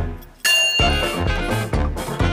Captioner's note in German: Gong